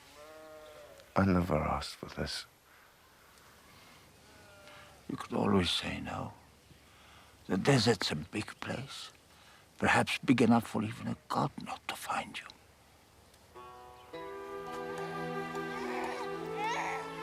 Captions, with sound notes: I NEVER ASKED FOR THIS. YOU COULD ALWAYS SAY NO. THE DESERT'S A BIG PLACE. PERHAPS BIG ENOUGH FOR EVEN A GOD NOT TO FIND YOU. (crying)